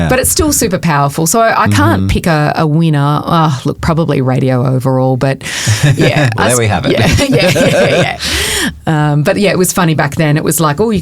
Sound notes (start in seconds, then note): 5.6 chuckles; 6.9 both chuckling